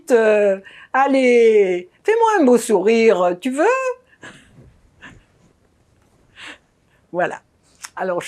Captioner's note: laughing